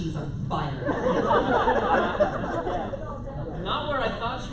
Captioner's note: laughter